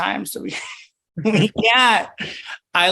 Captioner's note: laughs